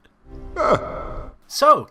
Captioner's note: laughs